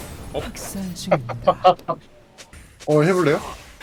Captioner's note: laughs